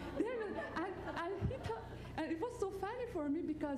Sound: laughter

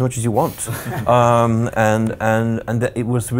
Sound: laughs loudly

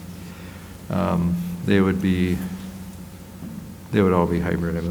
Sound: none

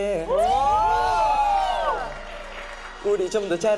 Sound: cheering

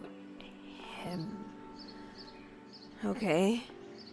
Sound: deep breath

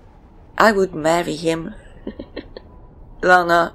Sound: chuckles

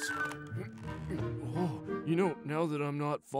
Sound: straining

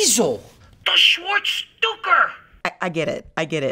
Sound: speaks Yiddish

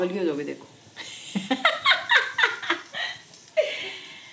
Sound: laughing

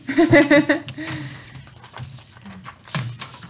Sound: laughter

